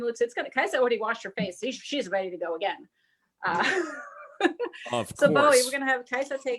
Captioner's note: laughs